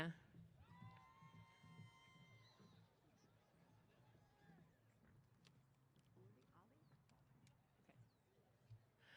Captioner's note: cheers